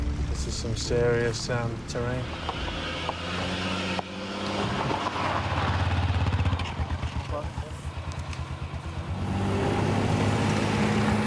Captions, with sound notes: This is some serious terrain. (ENGINE LABOURS) (ENGINE REVS)